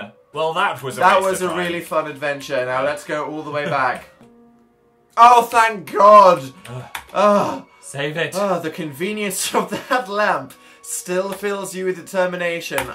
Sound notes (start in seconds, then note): 6.6 both sigh in relief; 8.6 laughs